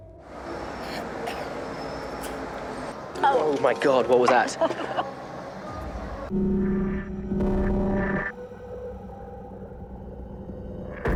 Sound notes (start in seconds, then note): 0.8 man coughs; 6.4 static buzzing